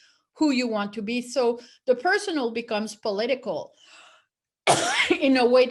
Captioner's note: coughs